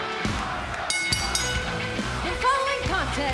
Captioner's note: fans chanting; bell